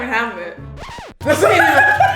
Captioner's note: record scratches; laughing